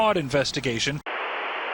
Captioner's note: static